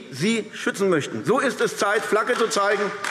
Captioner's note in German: Beifall AfD